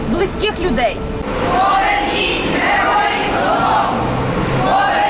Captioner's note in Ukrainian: учасники ходи скандують